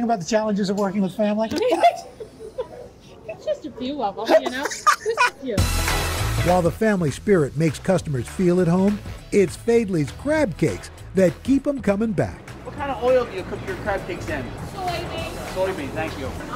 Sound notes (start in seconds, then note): 4.2 laughter